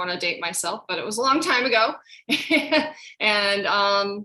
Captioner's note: laughs